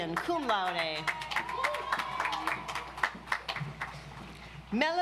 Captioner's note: audience applauds